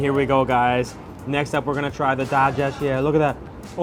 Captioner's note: foreign language